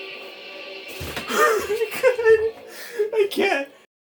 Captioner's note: laughs